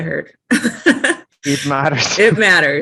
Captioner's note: laughs